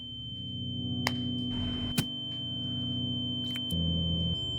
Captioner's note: high pitched bleeping